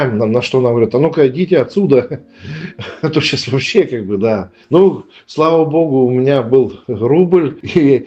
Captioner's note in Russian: смех